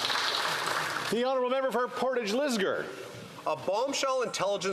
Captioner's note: some Applause